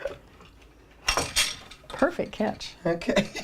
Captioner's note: chuckles; loom clanking; laughs